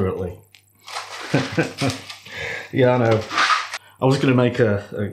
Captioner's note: laffs